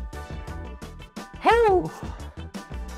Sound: breathing

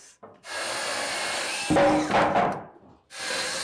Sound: saw buzzing

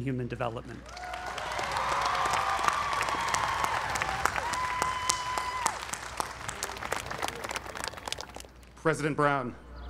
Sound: applause

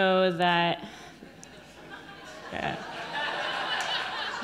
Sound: audience laughing

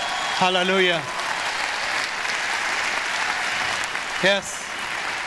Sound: audience applause

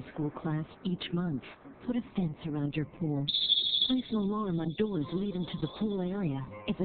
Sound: alarm sound

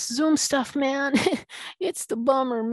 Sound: laughing

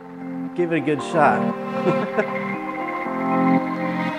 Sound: laughs; upbeat music

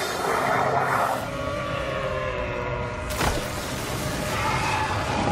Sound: monster shrieking

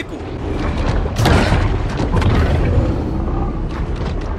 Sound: growling

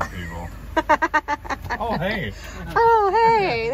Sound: laughing

